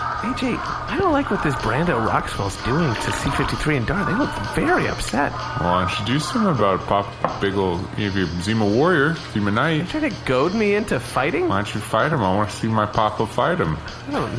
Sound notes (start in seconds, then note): 4.5 drunk, slurring words